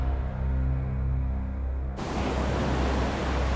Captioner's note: water roars